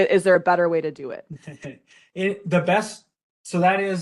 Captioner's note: laughing